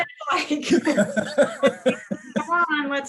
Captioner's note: both laughing